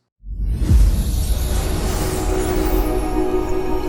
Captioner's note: logo whooshing